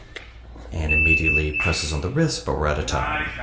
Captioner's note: beep